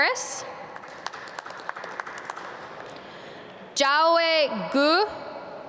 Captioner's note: audience clap